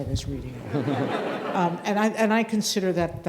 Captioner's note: audience laughing